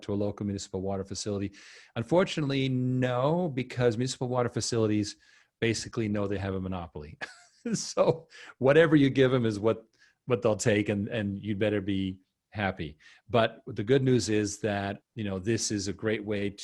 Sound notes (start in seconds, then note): 7.2 chuckles